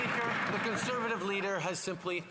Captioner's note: some Applause